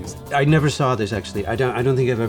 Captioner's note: in English